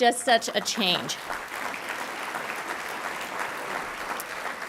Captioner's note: audience applauding